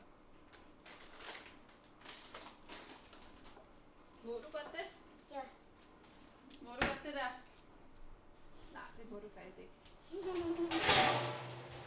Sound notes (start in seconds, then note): 10.2 laughter